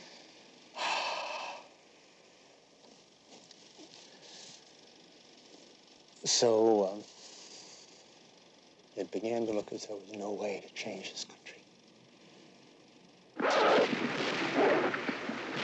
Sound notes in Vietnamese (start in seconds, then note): 0.8 Thở dài; 13.4 Tiếng súng máy